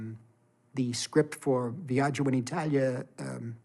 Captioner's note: non-english speech